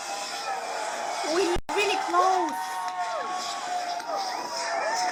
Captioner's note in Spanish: Aplausos